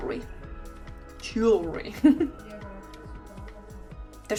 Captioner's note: laughter